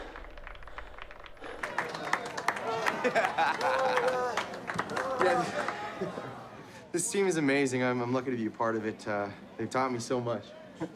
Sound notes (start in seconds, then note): 1.7 clapping; 3.3 laughing